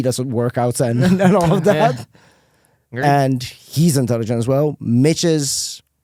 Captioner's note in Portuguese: risos